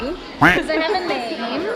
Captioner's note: duck quack sound; laughs